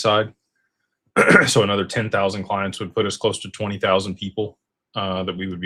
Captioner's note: clears throat